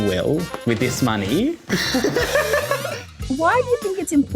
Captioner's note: laughs